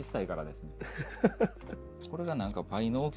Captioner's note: laugh